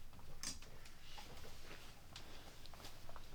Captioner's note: clothes rustling as he walks